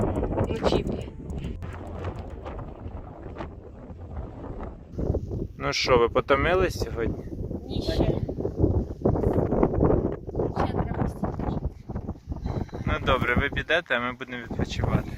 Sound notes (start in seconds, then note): 1.0 wind noise